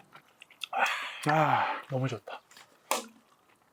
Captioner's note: sighs